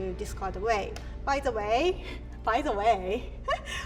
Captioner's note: laughs